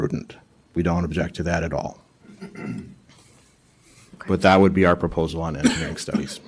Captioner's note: clears throat